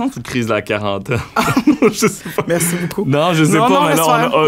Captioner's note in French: rires